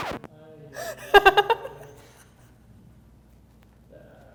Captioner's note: laughter